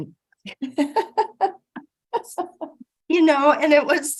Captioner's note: giggling